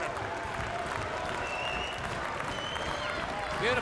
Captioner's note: crowd cheering